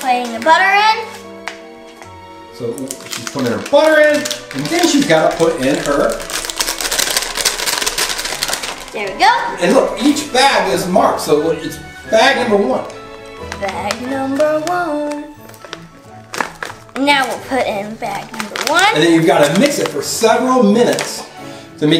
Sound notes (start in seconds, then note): 6.6 plastic bag crackling